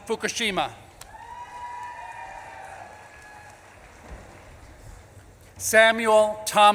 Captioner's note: audience claps and cheers